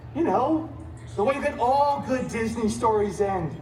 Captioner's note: none